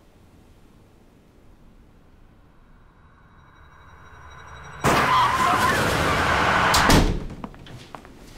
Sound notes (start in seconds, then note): 3.5 car crashes; 4.8 door closes